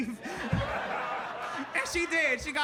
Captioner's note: audience laughing